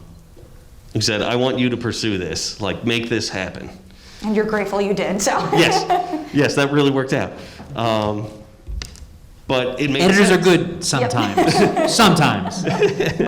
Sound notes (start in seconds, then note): 5.2 laughs